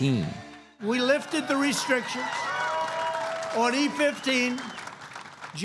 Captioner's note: applause